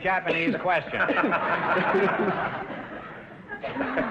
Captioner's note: audience laughter; laughing; audience laughter; laughing